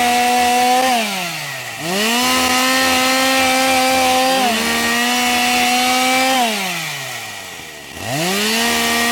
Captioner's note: chainsaw sound